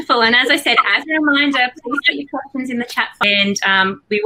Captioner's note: audio glitches